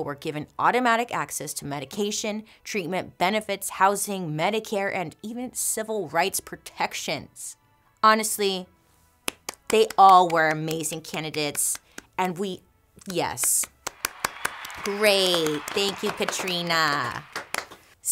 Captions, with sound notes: were given automatic access to medication, treatment, benefits, housing, Medicare, and even civil rights protections. Honestly, (hand claps) they all were amazing candidates, and we, yes. (crowd cheering) Great, thank you, Katrina.